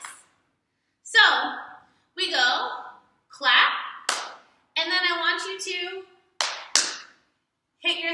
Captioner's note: hits thighs